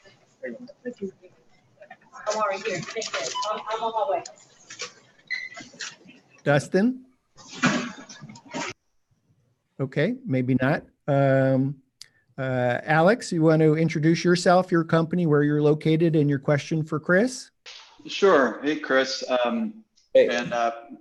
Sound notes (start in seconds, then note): 0.0 background chatter; 7.4 distant banging